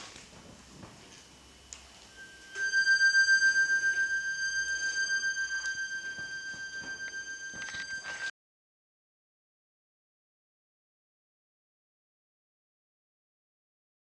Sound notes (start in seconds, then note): 2.1 high-pitched tone